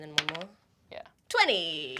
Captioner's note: rolls dice